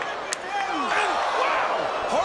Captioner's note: hand slaps